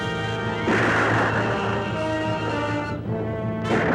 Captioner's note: intense music continues; weapon firing